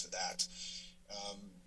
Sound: inhales

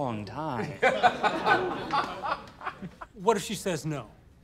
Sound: laughter

